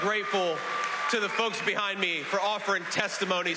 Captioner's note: cheers and applause